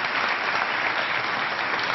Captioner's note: applause